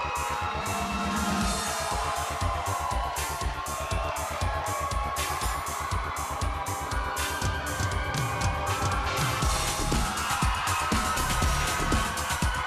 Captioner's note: crowd cheering